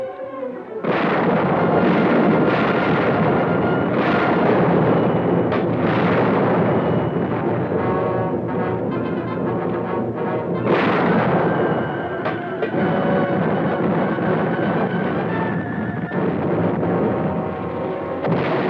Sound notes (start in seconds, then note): 1.0 bold orchestral music; 1.0 cannons blasting